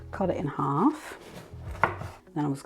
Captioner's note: rapid chopping thunk